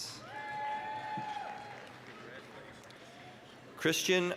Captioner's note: applause, cheering